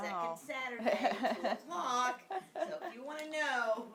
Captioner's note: laughing